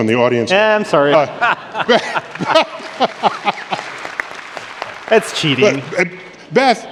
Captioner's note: laughter